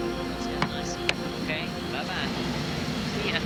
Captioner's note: chatter